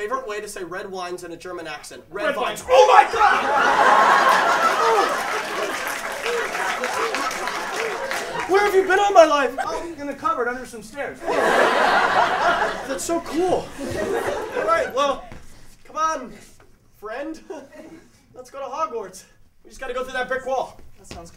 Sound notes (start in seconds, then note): 3.0 laughter. Applause